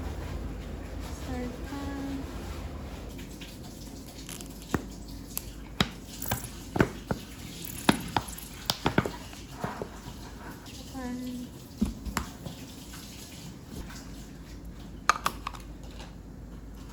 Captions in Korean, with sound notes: + 설탕 조금 + 물엿 (물엿의 영혼까지 짜는 소리) + 미림 + 다진 마늘 왕창